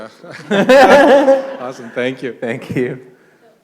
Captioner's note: laughter